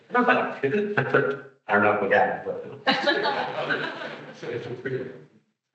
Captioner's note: attendees laughing